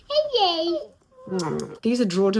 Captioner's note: smacks kisses